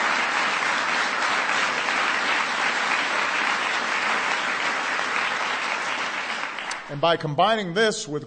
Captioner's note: applause